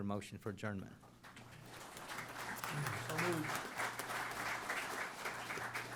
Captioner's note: applause